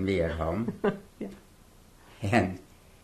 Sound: laughs

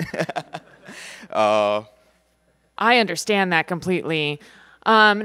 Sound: laughter

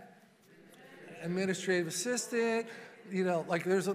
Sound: congregation muttering

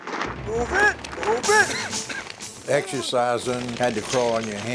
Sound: voiceover

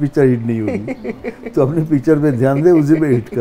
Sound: laughs

